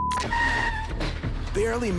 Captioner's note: tires squeal